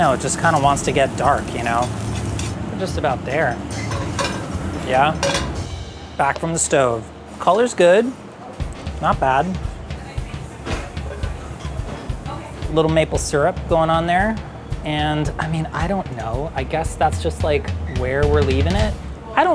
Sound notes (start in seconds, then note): 3.4 pan clatters; 9.2 drum beating